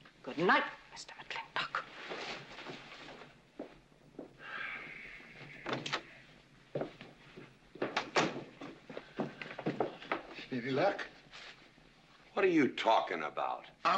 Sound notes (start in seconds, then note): 4.4 sighs; 5.6 door opens; 8.0 door closes